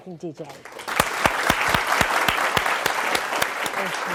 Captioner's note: applause